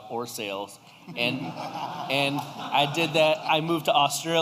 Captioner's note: laughter